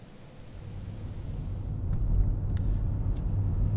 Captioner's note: car whirring